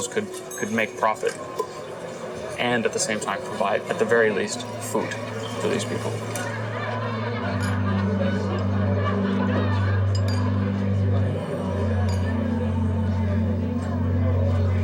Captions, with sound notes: could make profit, and at the same time provide, at the very least, food for these people. (people chattering)